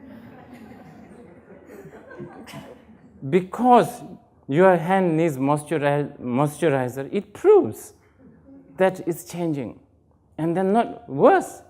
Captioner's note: laughter